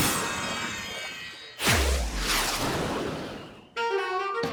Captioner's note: whoosh